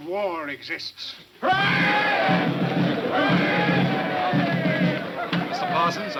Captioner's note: crowd cheering; drumming music